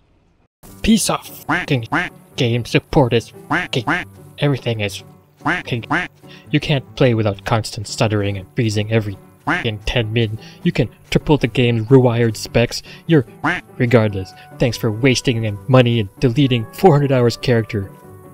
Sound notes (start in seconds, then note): 3.4 quackquack; 5.4 quackquack; 9.7 quack; 13.4 quack